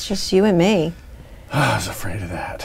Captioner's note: sigh